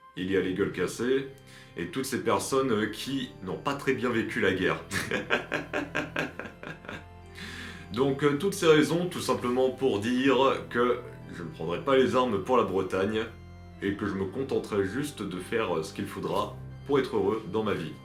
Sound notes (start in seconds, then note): 4.8 laughs